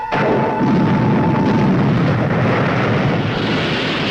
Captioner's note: engine booming